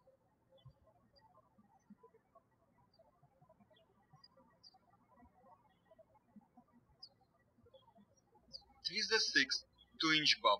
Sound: birds chirping

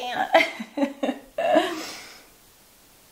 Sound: laughs

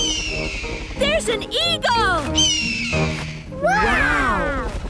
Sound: eagle shriek; eagle shriek

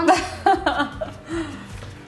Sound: mom laughing

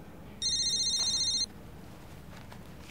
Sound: phone ringing

